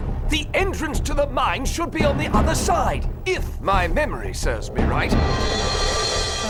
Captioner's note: none